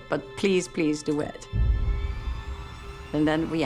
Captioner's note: machinery whirring